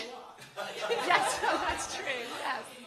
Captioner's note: laughter